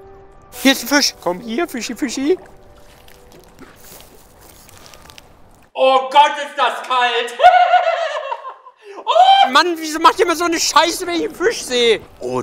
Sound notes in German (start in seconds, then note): 7.3 lacht